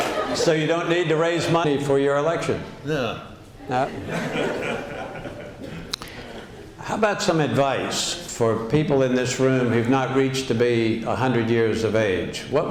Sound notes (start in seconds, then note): 3.9 laughter